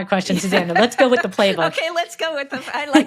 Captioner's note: laughing